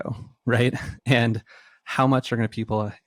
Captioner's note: laughs